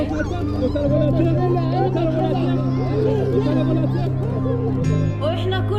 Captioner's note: speaking foreign language